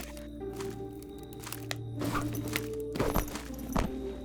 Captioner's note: wood creaks